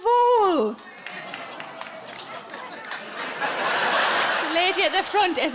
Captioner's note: audience member applauds